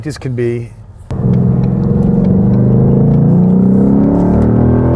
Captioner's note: engine roars